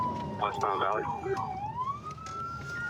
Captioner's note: sirens